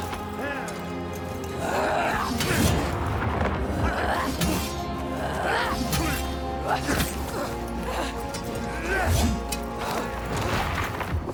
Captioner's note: grunting